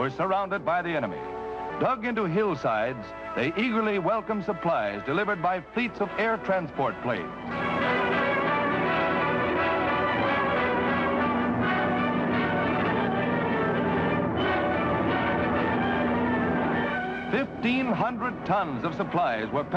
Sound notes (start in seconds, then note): 7.9 dramatic music; 7.9 plane engines roaring